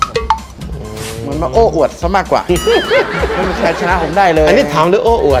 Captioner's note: laughing